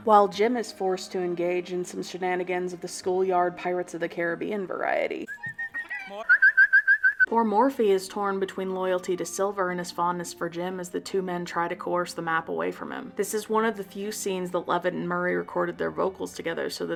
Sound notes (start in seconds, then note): 6.2 easter egg whistle; 6.2 theme park whistle